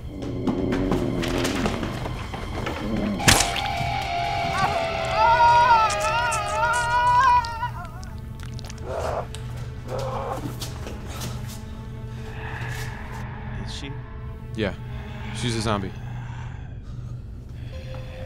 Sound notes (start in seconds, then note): 0.2 footsteps thudding; 0.2 zombie groaning; 4.0 zombie screaming; 6.5 flesh squishing; 9.2 footsteps shuffle